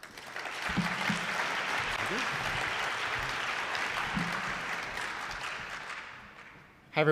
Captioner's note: applause